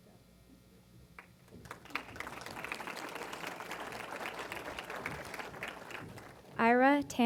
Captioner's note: applause